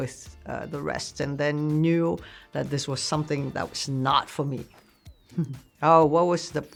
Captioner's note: laughs